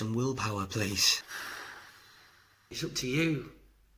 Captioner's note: sigh